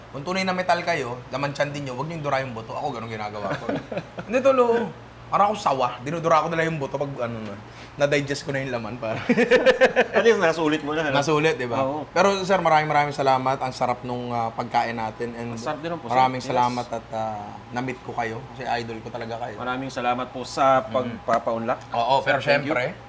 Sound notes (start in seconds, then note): 3.4 laughs; 9.1 laughter